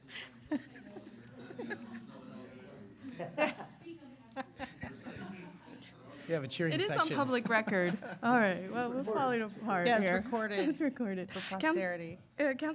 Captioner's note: laughter